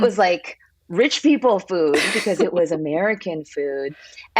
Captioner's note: laughs